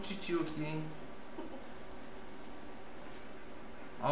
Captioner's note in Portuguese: risos